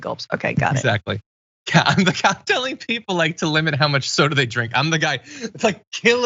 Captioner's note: laugh